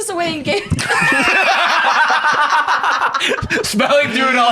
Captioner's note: laughing